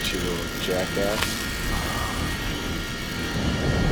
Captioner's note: groans